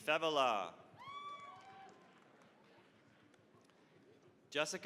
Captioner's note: cheering, applause